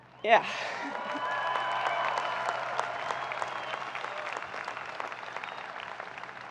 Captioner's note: audience cheering and applauding